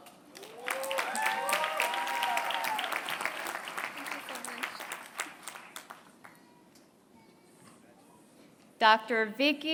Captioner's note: applause